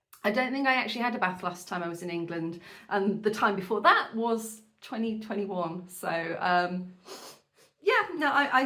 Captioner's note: sniff